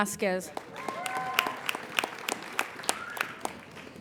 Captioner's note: applauding